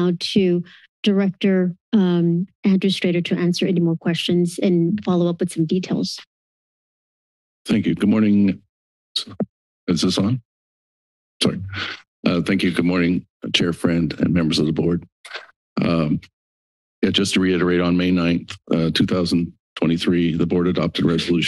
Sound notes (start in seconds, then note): 6.3 silence